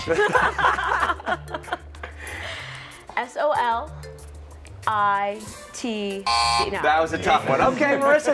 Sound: laughter

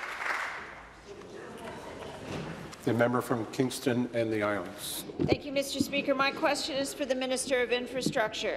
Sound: applause

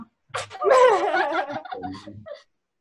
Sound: laughter

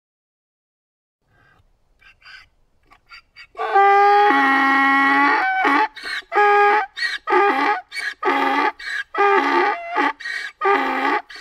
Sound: sound of donkey

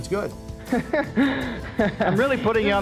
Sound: laughing

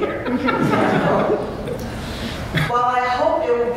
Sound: laughter

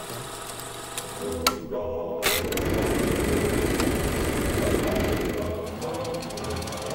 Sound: projector clicking

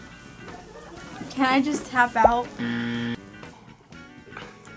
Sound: buzzer rings

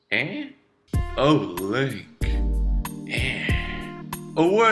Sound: seductively; more seductively

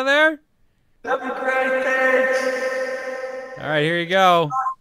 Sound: echo

